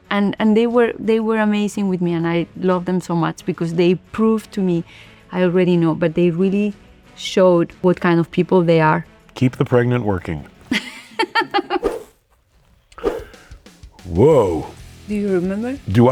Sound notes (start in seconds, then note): 10.7 Penelope laughs